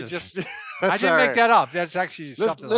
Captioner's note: laughs